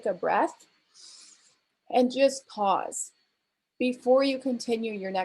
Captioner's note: inhales